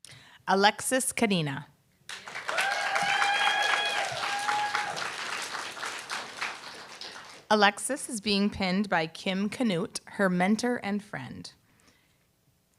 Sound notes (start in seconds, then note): 2.1 applause, cheer